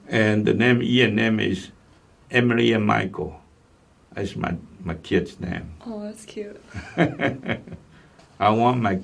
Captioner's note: laughs